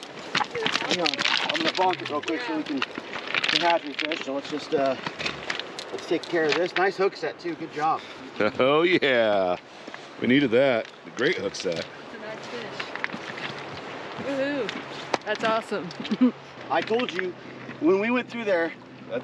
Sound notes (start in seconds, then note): 16.0 chuckling